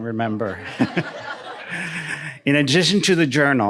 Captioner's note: audience laughing